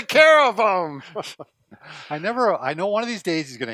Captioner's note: laughter